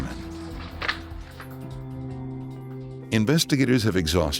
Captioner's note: gentle music; papers crumpling